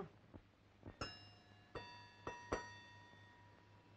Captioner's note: chiming